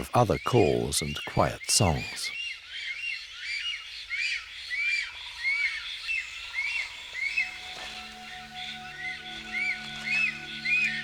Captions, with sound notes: of other calls and quiet songs. [storks tweeting]